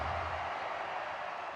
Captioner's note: marching band cadence; crowd cheers